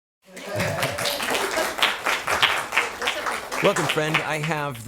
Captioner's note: applause